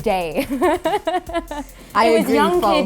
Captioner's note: laughs